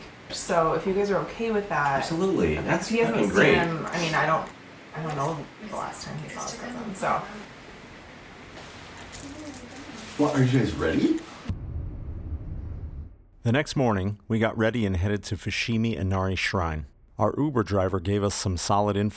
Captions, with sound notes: -So if you guys are okay with that, -Abolutely. -He hasn’t seen him -That's fucking great. I mean, I don't I don't know, the last time he saw his cousin, so. Well, are you guys ready? (Voiceover) The next morning we got ready and headed to Fushimi Inari Shrine. Our Uber driver gave us some solid info